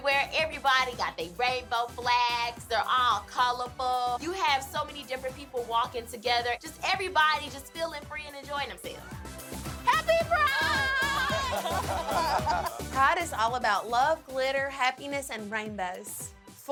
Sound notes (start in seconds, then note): 10.8 crowd laughs